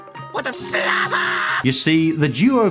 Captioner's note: Squidward screams